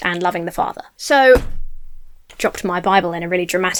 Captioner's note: book thuds